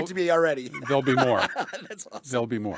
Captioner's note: laughs